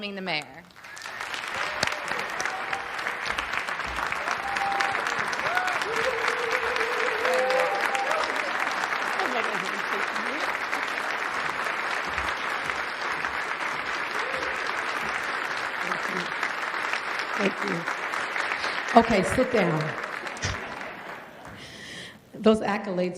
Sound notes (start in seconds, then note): 11.0 applause